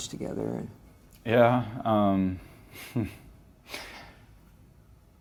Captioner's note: chuckles nervously